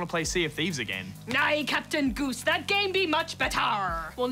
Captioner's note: pirate voice